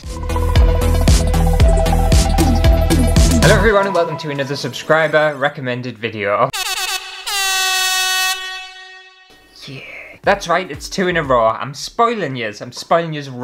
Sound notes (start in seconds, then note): 0.0 intro Music; 6.5 air horn!!